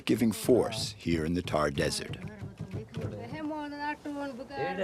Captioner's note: non-english speech